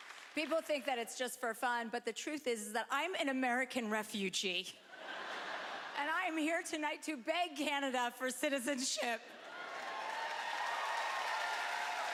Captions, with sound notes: People think that it's just for fun, but the truth is is that I'm an American refugee. (laughter) And I'm here tonight to beg Canada for citizenship. (cheering)